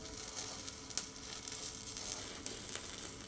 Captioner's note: sparking